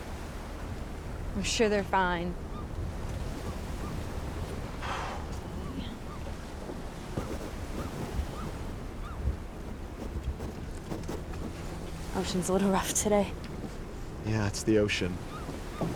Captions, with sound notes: - I'm sure they're fine. (Billy exhales loudly) Ocean's a little rough today. - Yeah, it's the ocean.